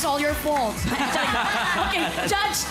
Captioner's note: laughter